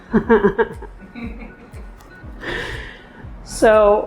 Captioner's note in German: Lachen